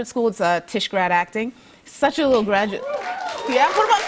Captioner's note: cheers and applause